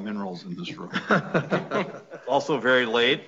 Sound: everyone laughing

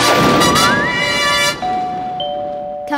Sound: doorbell ringing

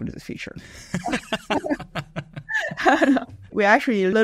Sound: laughter

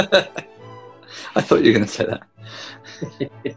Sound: chuckling

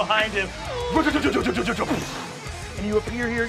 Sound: mimics drumming

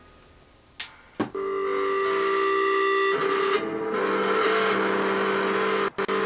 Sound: feedback

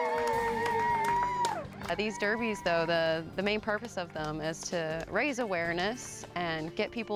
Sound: cheering

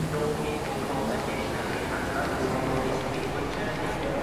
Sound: train station announcements

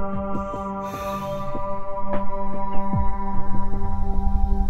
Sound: heavy breathing

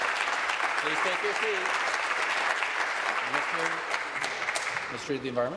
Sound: applause

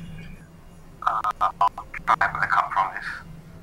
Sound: interference

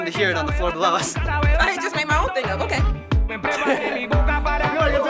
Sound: laughs

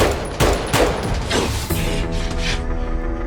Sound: echoing gunfire; gasping

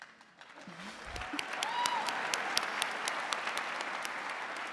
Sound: audience applauding

